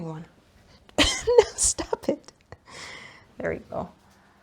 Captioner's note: laughs